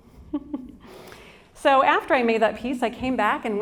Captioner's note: chuckles